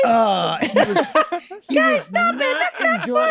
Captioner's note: Glenn laughing